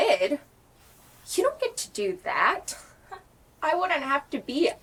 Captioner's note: chuckles